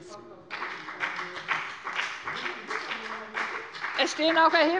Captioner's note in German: Beifall bei dem BÜNDNIS 90/DIE GRÜNEN und der CDU